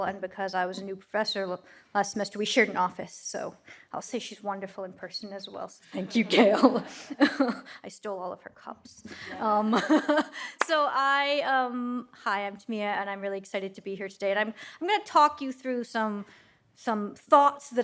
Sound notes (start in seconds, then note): 6.0 audience laughs; 9.2 laughs